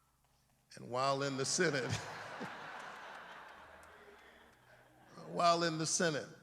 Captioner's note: laughter